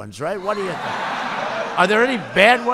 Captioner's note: laughter